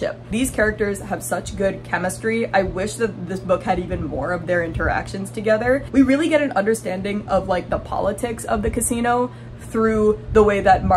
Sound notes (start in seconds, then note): none